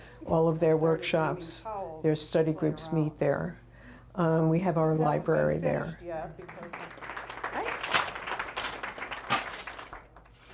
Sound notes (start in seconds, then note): 6.1 people clapping